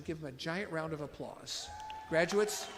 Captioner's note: audience applauds